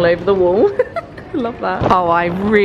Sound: laughs

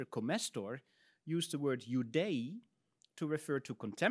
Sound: speaks in Latin

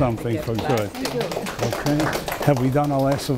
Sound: audience applause

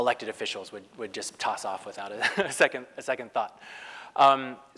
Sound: laugh

